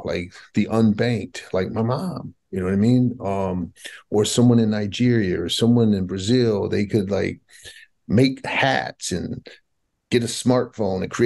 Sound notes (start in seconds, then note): none